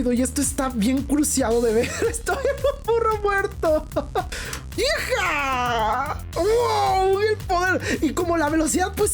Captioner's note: laughing